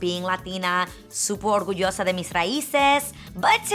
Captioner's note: speaks in foreign language